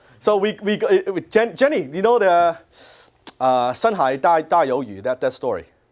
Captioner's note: speaks Chinese